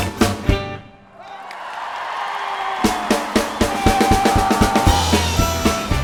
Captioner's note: audience cheering and applauding; upbeat fiddle music